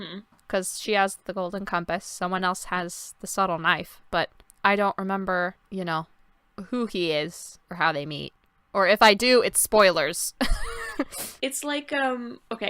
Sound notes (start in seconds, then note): 10.8 laughs